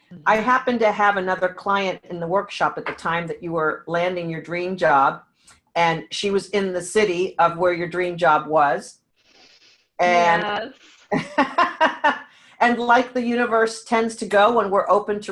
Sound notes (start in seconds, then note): 10.0 laughing